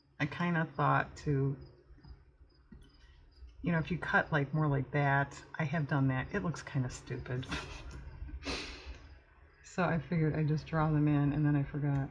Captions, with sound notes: i kind of thought to-- if you cut like more like that, i have done that, it looks kind of stupid (laughs) so i figured i'd just draw them in, and then i forgot